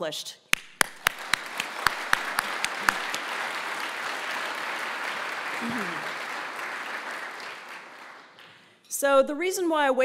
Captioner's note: applause